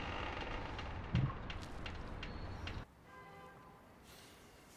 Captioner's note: house creaking